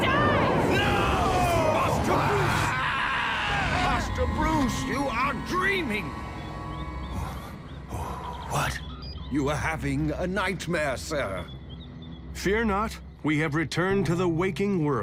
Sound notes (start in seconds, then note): 0.0 screaming; 7.1 breathes heavily